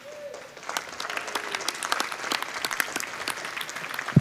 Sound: audience applauding

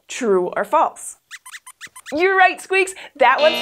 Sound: squeaks squeaks

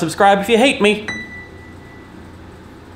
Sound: ding

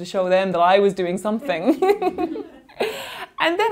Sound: laughing

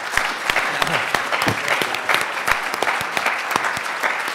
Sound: everyone applauds

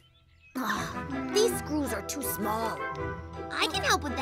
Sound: Poki grunts; exhales

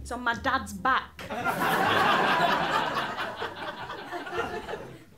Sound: laughter

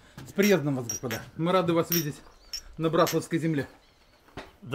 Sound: glasses clinking

